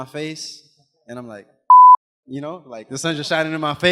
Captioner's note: beep